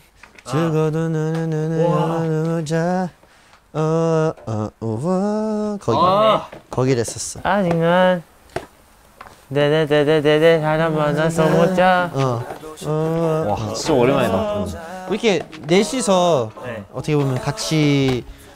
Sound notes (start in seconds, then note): 9.5 humming